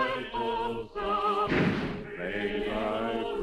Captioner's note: gunshot